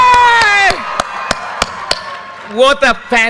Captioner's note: audience cheers and applause